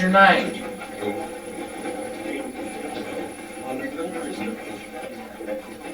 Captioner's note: static playback transmitting